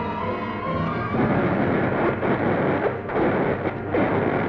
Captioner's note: thunder crashing